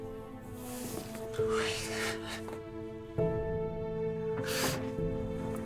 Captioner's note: crying